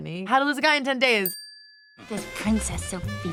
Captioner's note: tone dings